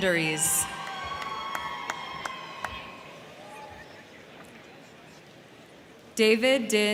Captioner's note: crowd cheering; crowd clapping